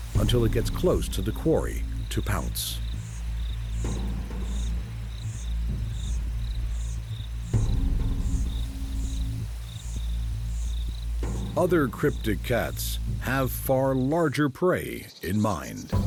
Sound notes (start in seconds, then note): 8.4 birds chirping